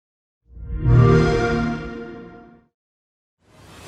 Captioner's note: xbox sound